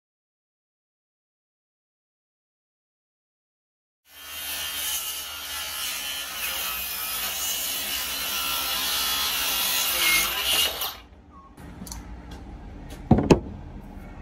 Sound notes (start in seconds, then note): 4.1 circular saw whines loudly; 13.0 ear muffs thud